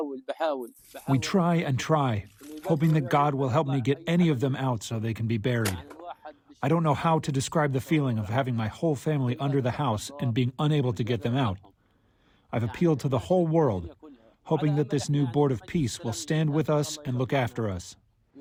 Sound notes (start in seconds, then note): 2.0 through translator